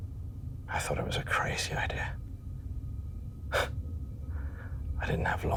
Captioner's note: scoffs